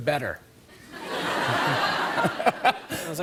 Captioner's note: laughter